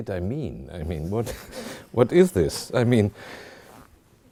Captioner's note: chuckling